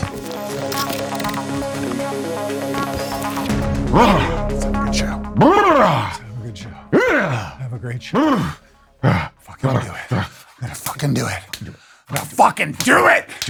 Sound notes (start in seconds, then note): 0.0 energetic electronic music; 4.2 fluttering lips; 7.1 grunts; 8.3 flutters lips and grunts; 12.1 smacking fists